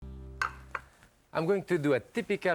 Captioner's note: plate clatters